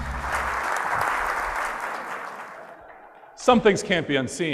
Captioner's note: audience applause